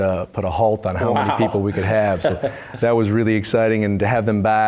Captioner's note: laugh